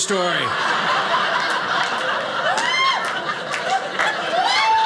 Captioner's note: audience laughing